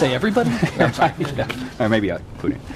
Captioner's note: laughter